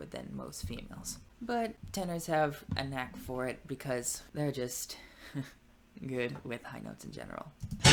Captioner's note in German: lacht